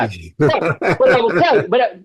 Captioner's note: laughing